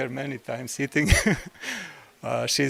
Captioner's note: laugh